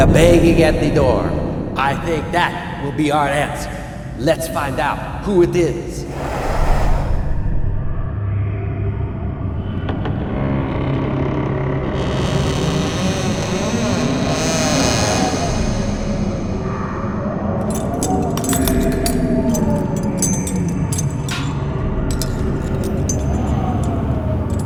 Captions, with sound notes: banging at the door I think that will be our answer let's find out who it is [Creaking Door] [Chains Clanking]